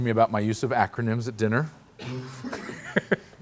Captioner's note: laughs